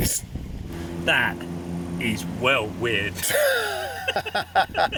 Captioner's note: laughing